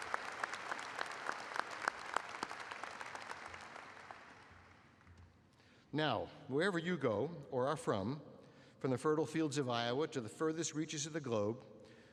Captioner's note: applause